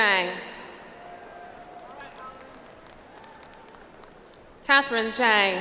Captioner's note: audience applauds